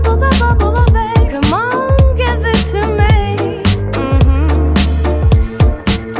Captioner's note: hmm hmm